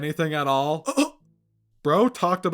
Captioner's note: shocked gasp